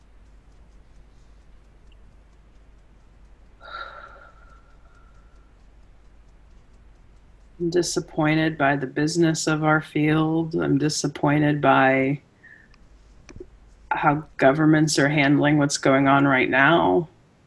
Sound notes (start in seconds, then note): 3.6 sighs